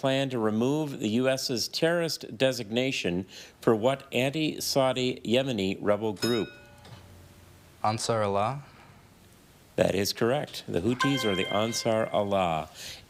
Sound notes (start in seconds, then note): 6.2 bell dings; 10.9 chime resonating